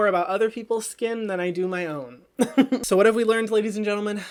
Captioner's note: chuckles